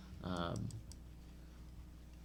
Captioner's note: mouse clicking